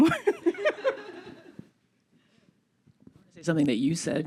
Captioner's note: laughter